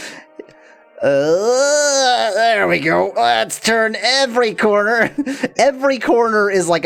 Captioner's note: groans